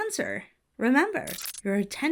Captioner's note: audio glitches